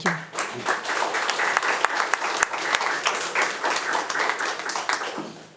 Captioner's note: attendees applauding